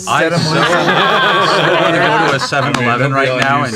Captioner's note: laughter